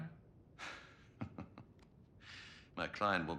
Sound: laughs

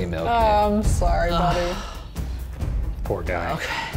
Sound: groaning

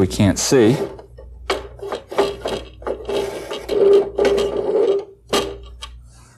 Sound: metal scraping

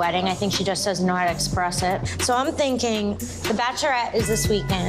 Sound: none

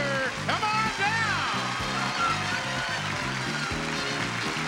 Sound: audience applauds; theme music continues

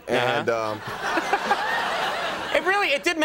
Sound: audience laughing

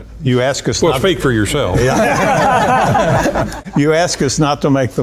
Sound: laughter

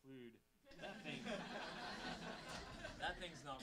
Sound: audience laughing

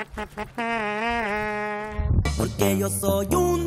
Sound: imita trompeta

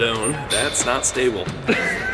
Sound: banister clangs; laugh

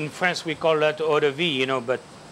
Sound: speaks French

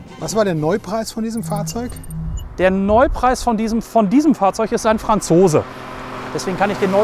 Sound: Schlörb

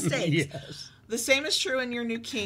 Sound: giggles

